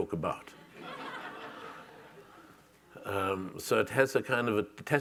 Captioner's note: audience members laughing